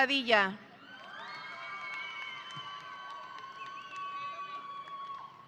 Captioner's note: audience applauding